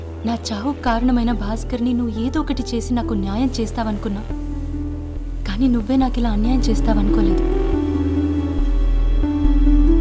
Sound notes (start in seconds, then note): none